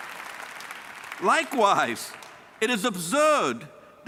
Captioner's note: cheers and applause